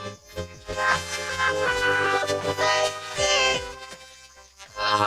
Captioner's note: laughing